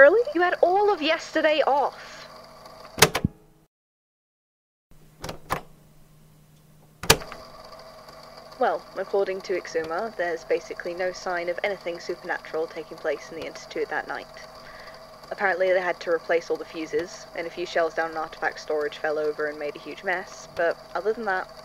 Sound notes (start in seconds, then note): 2.9 click; 5.3 click